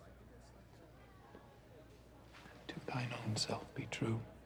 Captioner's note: quietly